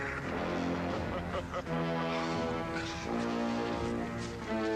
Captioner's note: laughing